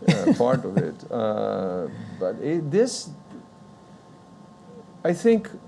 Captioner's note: laughs